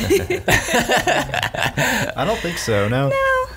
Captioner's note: laughs